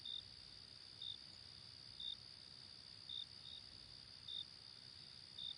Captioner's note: crickets Chirping